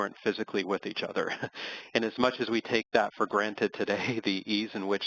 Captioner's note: laugh